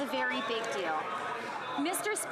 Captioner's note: some Applause